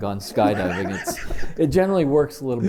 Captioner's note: chuckle